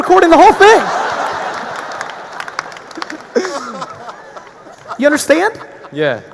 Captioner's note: audience laughing; audience applauding